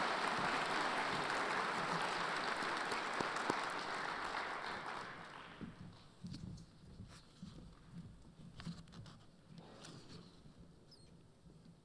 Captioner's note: applause